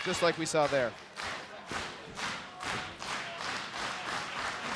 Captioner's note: audience clapping